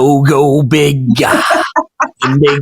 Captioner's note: laughs